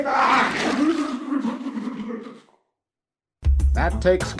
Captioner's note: drowning noises